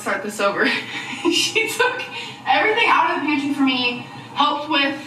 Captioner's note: laughs